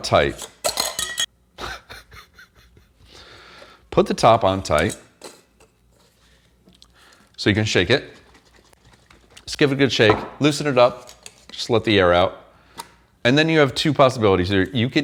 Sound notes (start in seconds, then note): 0.3 lid clattering; 1.6 chuckling